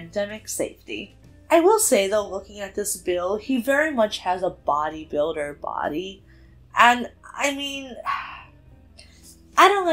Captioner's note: sighs